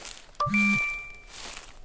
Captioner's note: notification sound